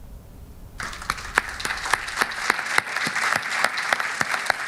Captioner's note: audience applauding